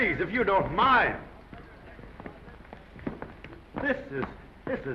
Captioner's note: crew quieting